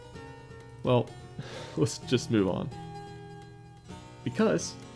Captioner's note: exhale